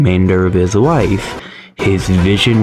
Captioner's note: inhales Oxygen